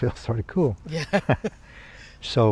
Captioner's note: both laugh